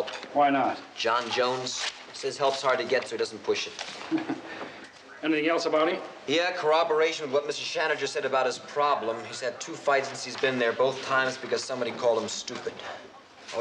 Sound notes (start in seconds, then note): 3.9 chuckles